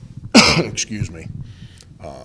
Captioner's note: coughing